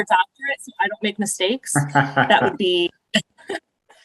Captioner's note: laughter